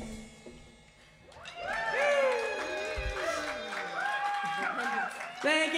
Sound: music stops abruptly; cheers and applause

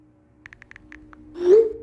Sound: texting

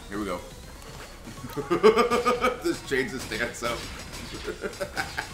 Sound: laugh; laugh

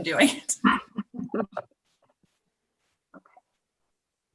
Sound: chuckles

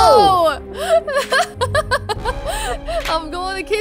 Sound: laughing

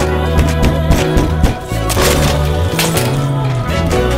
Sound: loud knocking on the door

